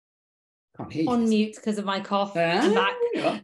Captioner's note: laughs